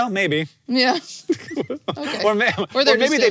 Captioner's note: laughs